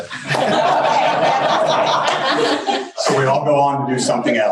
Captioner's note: crowd laughs